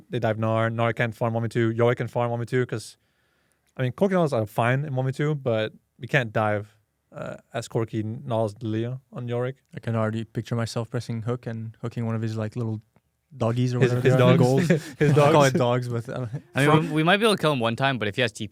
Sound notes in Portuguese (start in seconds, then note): 13.8 risos